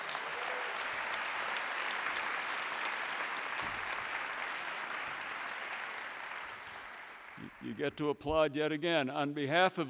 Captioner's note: applause